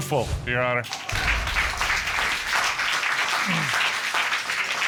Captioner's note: applause